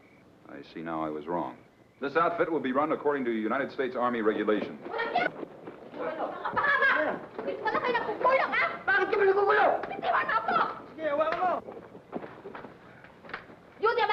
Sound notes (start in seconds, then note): 5.0 woman yelling in foreign language; 9.3 man and woman yelling in foreign language